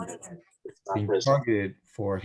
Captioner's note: signal interuptions